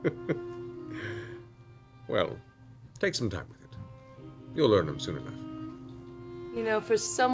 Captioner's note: laughs